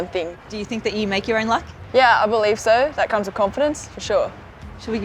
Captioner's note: none